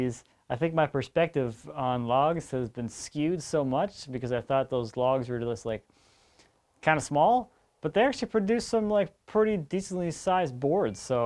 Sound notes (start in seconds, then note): none